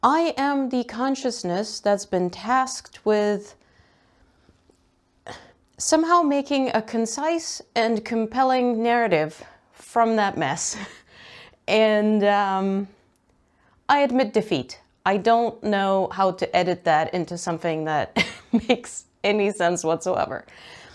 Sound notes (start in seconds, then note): 5.2 exasperated sigh; 18.4 laughs